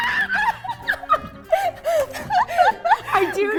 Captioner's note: laughing